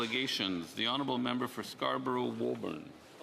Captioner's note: speaking French